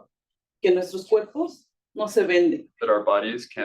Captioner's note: speaking Spanish